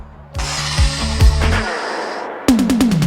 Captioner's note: breath whooshing; upbeat synth-pop music